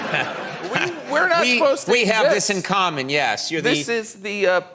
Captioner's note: laughs